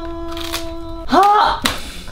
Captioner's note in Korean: 와그작